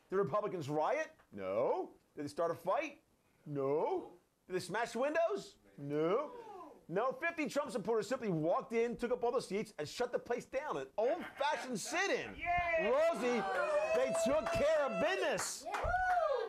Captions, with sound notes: THE REPUBLICANS RIOT? NO. DID THEY START A FIGHT? NO. DID THEY SMASH WINDOWS? NO. NO. FIFTY TRUMP SUPPORTERS SIMPLY WALKED IN, TOOK UP ALL THE SEATS AND SHUT THE PLACE DOWN; AN OLD-FASHIONED SIT-IN. [Scattered cheers] ROSIE, THEY TOOK CARE OF BUSINESS. [Scattered cheers]